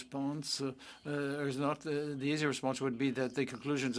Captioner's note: speaking French